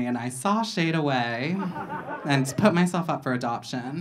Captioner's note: audience laughing